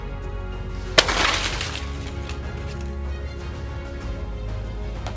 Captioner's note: thump and rustling crash